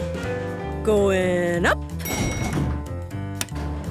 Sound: elevator pings

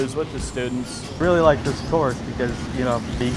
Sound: voiceover

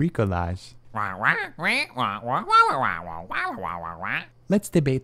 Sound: squawking

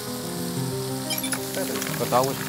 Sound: rustle

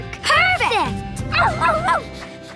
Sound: barking

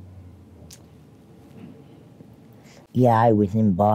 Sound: tongue smacking

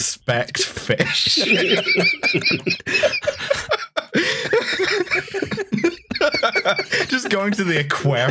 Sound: laughter

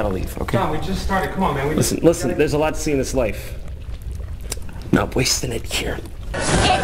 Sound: lip smack

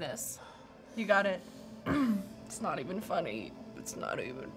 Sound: clears throat

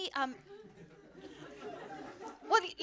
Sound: laughter

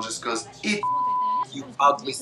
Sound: beep

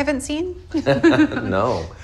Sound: laughter

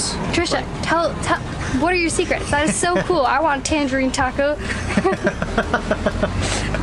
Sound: laughter

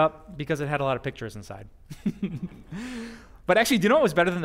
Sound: pastor: Laughter

